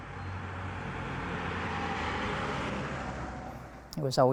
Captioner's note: truck engine